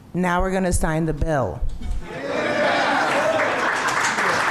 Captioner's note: cheers